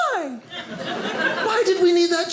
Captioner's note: audience laughing